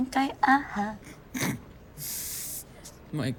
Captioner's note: laughs